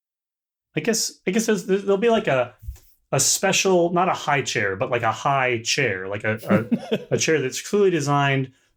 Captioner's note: laughter